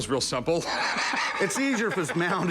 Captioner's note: laughs